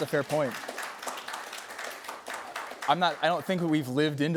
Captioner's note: applause